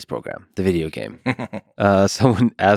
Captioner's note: Tim laughs